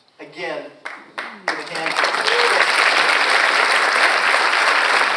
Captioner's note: audience applauds